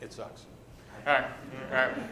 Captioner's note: laughter